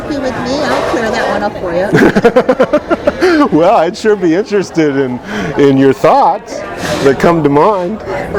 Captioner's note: laughing